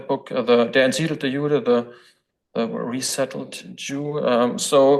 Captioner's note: foreign language